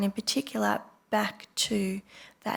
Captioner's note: none